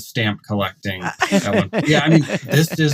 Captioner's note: laughs